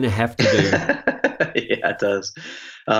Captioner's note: laughing